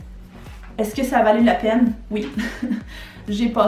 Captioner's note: laugh